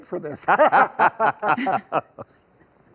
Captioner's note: all Laugh